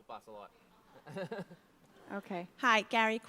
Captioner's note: laughs